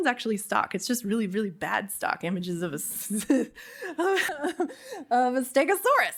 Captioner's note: laughs